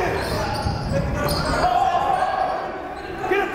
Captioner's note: yelling